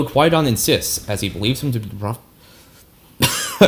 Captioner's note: cough